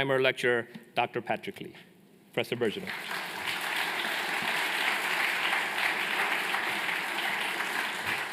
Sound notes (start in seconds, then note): 2.7 applause